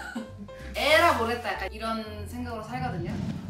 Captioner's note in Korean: 웃음